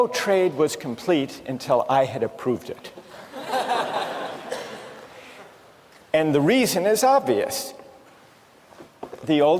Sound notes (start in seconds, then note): 3.0 laughter